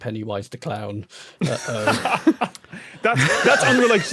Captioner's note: laugh